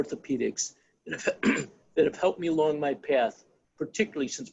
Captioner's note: coughs